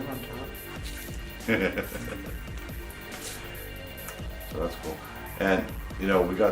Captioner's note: laughing